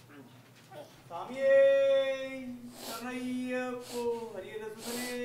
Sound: chanting continues

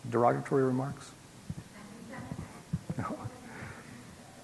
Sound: laugh

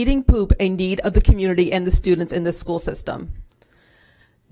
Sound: none

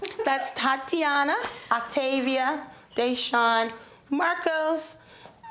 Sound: laughing

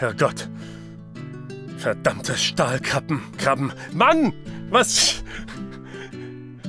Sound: laughter

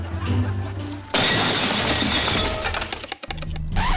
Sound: glass breaking

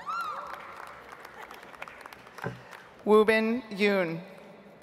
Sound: audience applauds

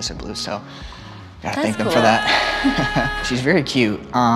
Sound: laughing

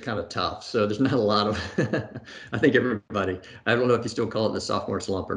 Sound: laughs

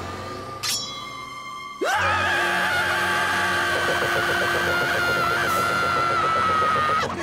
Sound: screaming

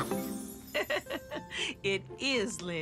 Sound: Ms. Tab chuckles

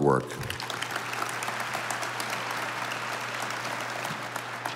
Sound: audience applauding

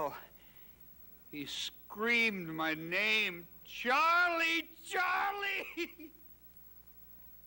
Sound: sobbing

